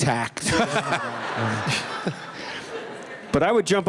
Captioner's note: laughter